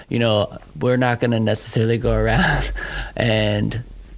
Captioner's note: laughs